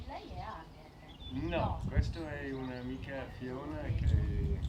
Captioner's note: conversing in Italian